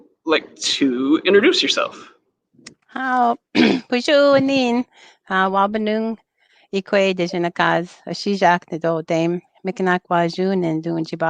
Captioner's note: speaking Ojibwe